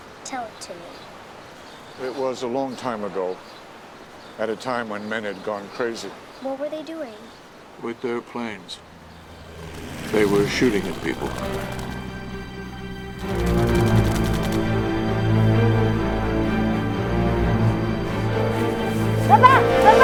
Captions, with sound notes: - Tell it to me. - It was a long time ago, at a time when men had gone crazy. - What were they doing? - With their planes, they were shooting at people. (aircraft whooshing) (guns firing) (suspenseful music)